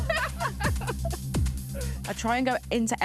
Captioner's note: laughter